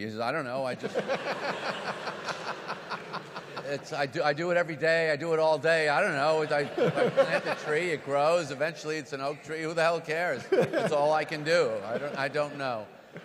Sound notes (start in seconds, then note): 0.7 audience laugh; 10.4 laughs